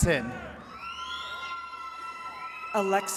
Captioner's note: attendees cheering